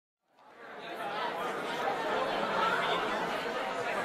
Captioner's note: chatting, laughter